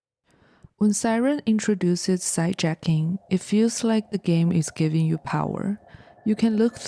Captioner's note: siren